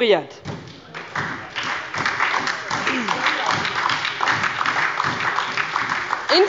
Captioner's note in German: Beifall bei der SPD